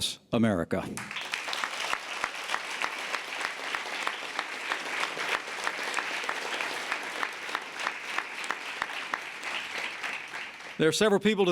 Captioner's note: applause